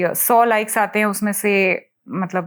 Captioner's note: non-english speech